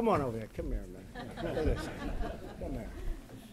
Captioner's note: laughter